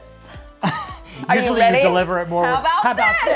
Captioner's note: chuckles